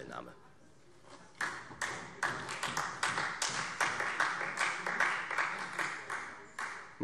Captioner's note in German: Beifall Freie Demokraten